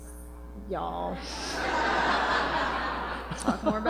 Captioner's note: laughter